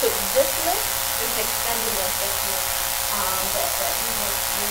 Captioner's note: buzzing drowns out speaker